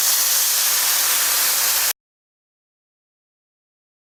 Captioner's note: pan sizzles